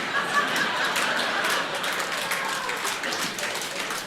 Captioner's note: audience laughing